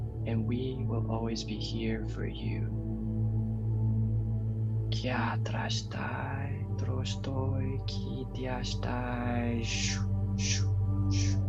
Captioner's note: light language